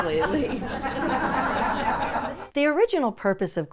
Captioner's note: audience laughs